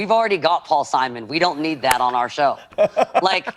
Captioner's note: laughs